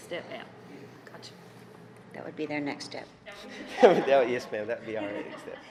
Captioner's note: laughing